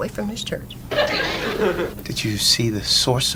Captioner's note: audience laughs